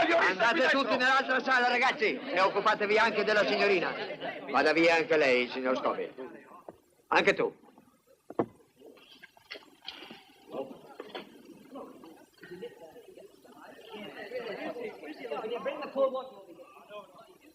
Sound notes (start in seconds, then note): 9.3 all chattering